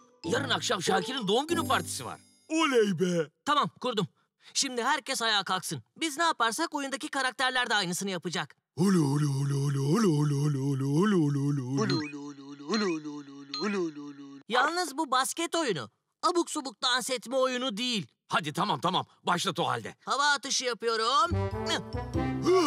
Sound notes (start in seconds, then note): 8.8 sing song noises